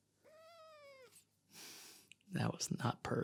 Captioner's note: cat meows